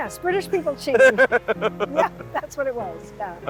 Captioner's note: laughing